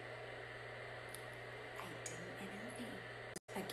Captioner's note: whispering